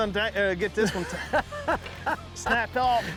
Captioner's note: laughs